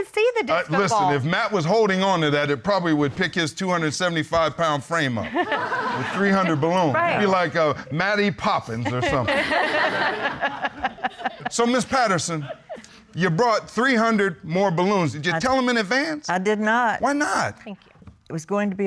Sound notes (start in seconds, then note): 8.7 all laughing